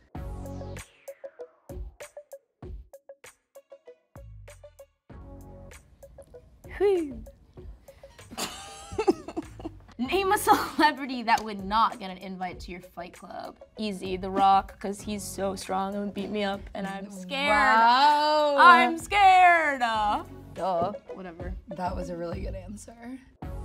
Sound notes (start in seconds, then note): 0.2 funky music; 8.2 Rachel laughing